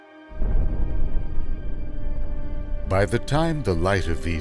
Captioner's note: explosion booming